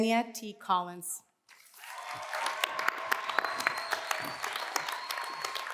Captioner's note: cheers and applause